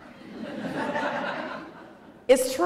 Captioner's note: laughter